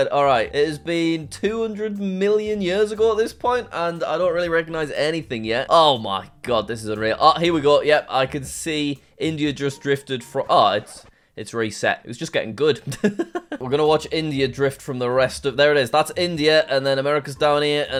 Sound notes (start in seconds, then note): 13.0 laughs